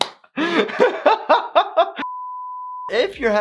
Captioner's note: doctor laughs